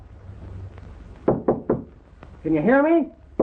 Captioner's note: Jim knocks